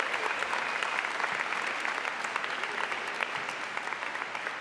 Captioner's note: applause